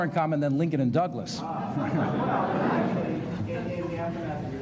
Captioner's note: laughter